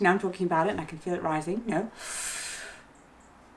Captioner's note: inhales